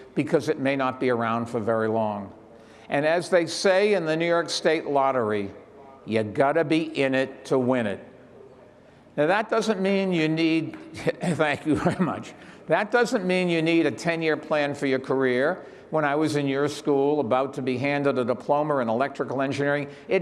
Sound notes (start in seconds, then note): 10.5 chuckles